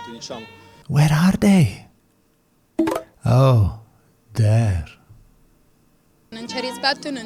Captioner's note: Grindr notification sound